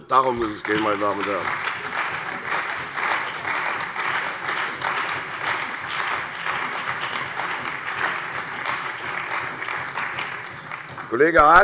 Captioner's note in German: Beifall bei der CDU und dem BÜNDNIS 90/DIE GRÜNEN